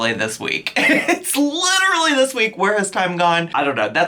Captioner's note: chuckles